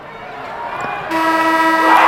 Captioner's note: crowd cheers; horn honks